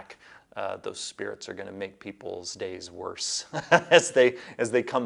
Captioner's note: laughs